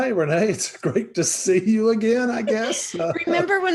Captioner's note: laughing